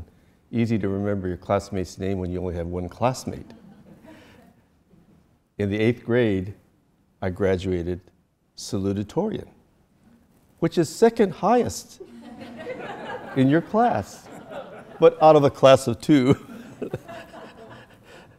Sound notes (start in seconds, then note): 12.0 audience laughter; 16.2 laughs